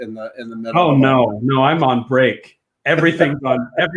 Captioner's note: laughs